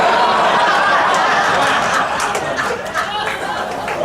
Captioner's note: audience laughing